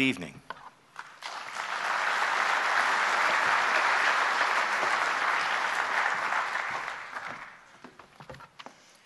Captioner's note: applause